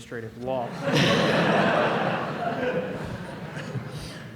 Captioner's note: laughter